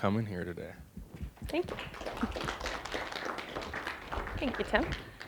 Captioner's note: applause